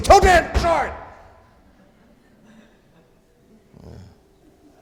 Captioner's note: audience laughs